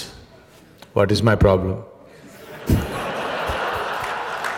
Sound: laughter

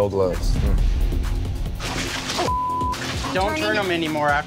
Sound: meat sizzling

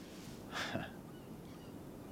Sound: chuckles softly

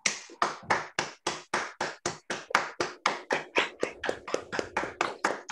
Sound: applause

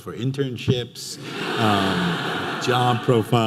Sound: audience laughing

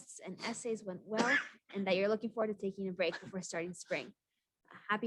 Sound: sneeze

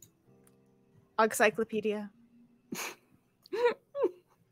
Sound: laughs

